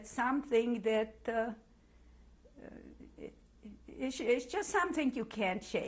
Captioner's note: pauses for 3 seconds